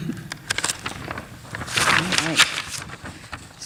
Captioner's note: paper rustles